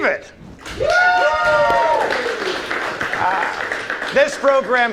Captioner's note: audience applauds